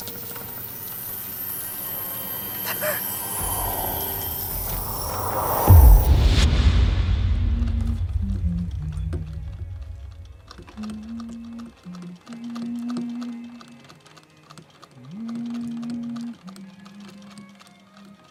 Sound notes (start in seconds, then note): 4.0 wind howling; 6.1 dramatic orchestral music; 8.3 Emma humming; 8.3 soft Victorian music